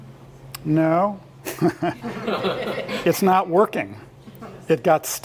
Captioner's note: laugh